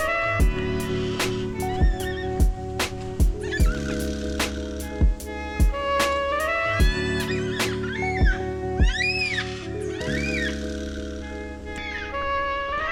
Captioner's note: black cockatoo sounds